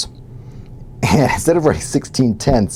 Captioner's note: laugh